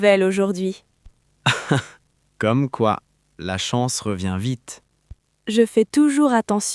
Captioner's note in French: rire